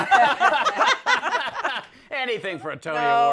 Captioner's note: laughter